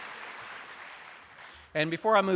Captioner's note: applause